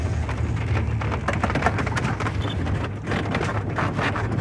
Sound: tires rumbling

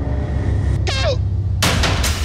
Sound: horn beeps; dramatic music

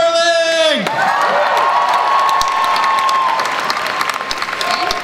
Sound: crowd applauds

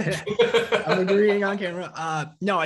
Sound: both laughing

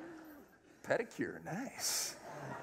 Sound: laughter

